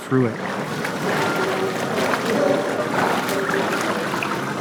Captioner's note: water splashing